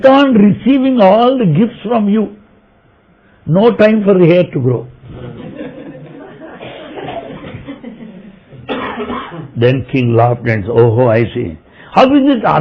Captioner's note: laughter